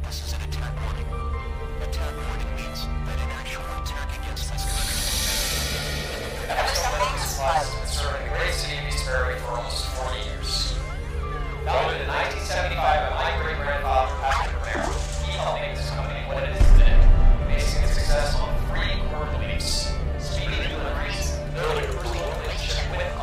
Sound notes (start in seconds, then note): 4.7 distorted noise; 6.6 distorted TV